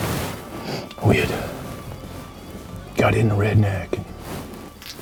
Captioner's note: whispering